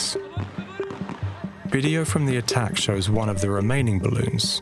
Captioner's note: indistinct shouting, weapons firing